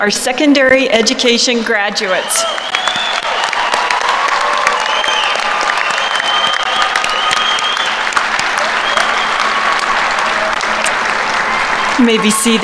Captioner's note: applause